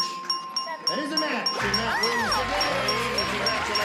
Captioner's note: applause